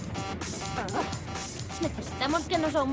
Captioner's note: beeping